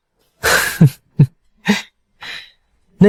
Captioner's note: chuckles